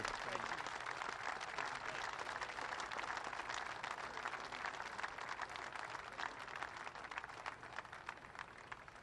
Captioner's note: applause